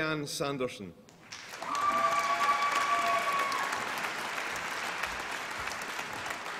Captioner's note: applause and cheering